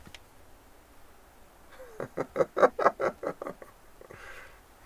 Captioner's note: laughs